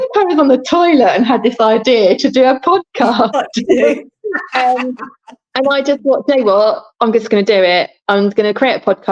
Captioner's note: laughing